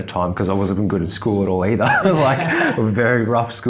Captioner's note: laughs